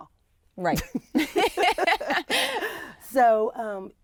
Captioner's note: laughter